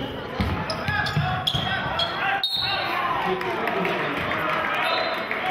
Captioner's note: whistling